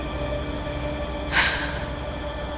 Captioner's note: sighs